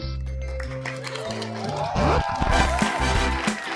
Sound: applause

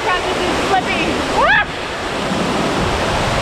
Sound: screaming; water splashing

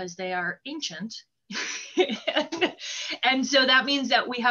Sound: laughter

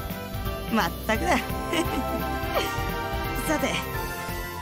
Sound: chuckle

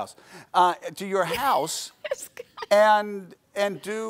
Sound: laughing

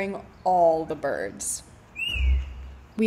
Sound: bird whistles loudly

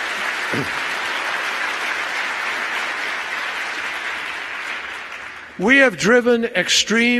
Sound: applause

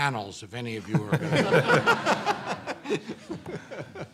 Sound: laughs

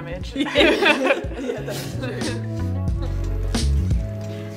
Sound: everyone laughing

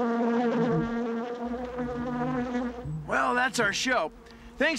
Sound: <i> buzzing</i>

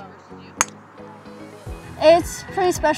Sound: club smacks

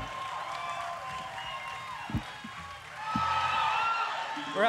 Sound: audience cheering

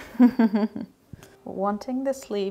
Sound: chuckling

